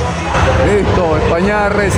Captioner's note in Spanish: ovación